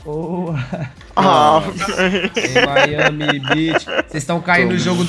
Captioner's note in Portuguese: risos